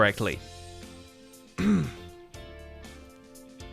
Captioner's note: clears throat